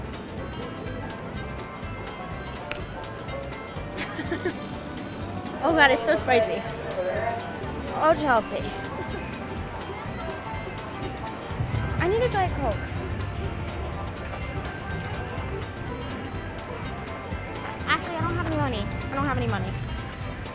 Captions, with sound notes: (crunching loudly) (laughing) Oh God, it's so spicy, oh Chelsea. I need a Diet Coke. Actually, I don't have any money, I don't have any money.